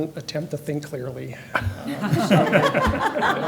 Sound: laughter

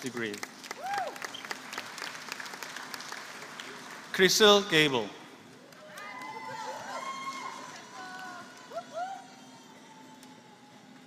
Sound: applause

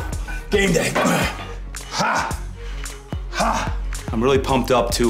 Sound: loud grunting

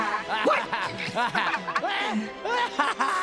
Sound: laughing

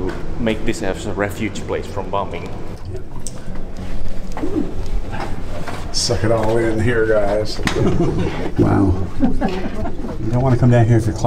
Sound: chuckels

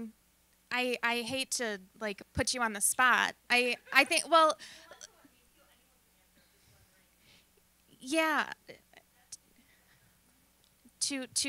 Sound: laughing

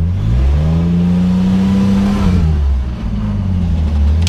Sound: engine revving

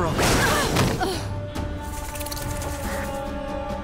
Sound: wincing

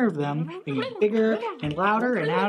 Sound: critters mumbling and yelling

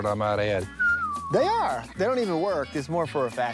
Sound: whistles

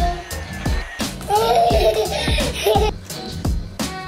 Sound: laughing

